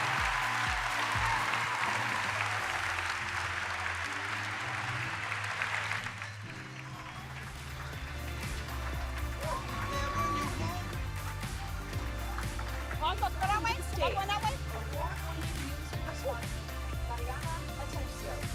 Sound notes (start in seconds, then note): 0.8 applause